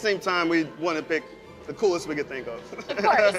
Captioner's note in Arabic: يضحك